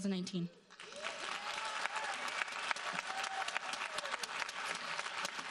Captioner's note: audience applauding